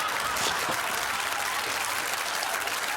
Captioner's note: audience laughing; applause